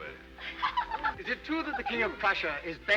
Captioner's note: women giggling